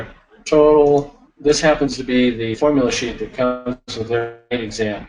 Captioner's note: speaker garbling